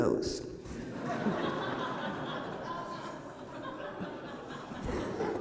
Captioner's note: laughter